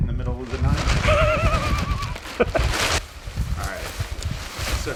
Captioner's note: laughing